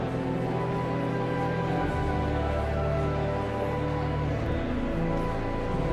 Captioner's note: joyful organ music continues; audience chattering continues